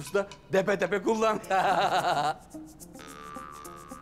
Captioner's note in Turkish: Gülme sesleri